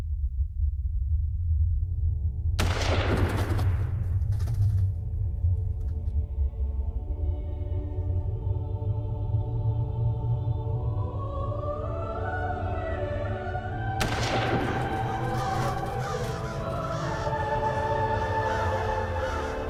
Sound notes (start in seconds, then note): 2.6 gun blazing; 7.7 somber music; 14.0 gun blazing; 17.0 crows crowing